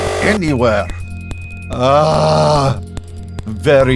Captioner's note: Eiffel groans